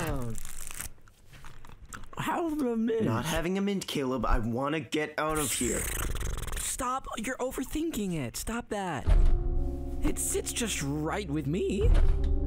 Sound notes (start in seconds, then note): 9.1 loud thud; 11.9 loud thud